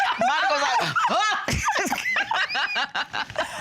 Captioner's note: laughing